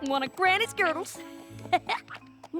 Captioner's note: laughs